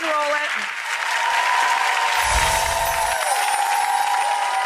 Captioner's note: crowd cheering